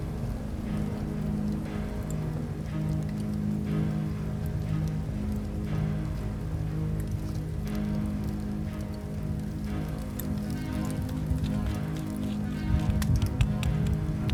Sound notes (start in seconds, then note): 2.1 dramatic music; 2.1 wind whooshing